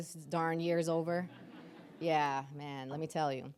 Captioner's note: audience laughing